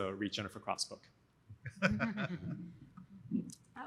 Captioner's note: laughter